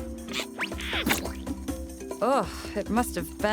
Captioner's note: splat